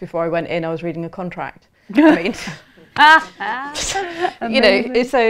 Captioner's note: laughter